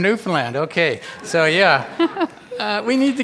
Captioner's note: all laugh